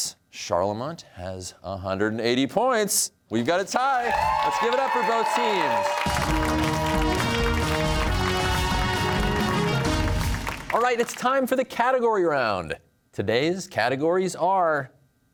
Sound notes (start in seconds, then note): 6.1 cheers and applause